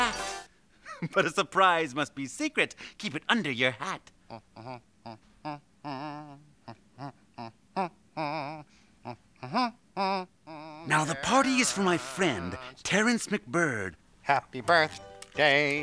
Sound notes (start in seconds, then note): 4.6 humming "happy birthday to you"